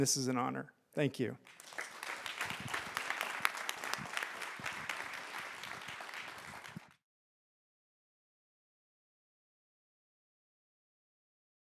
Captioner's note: applause